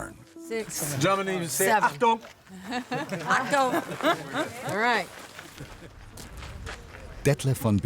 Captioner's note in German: lacht